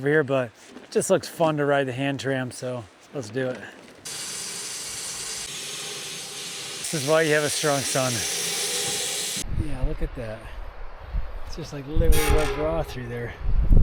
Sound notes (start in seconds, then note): 4.0 drill whirring